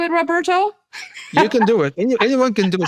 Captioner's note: laughs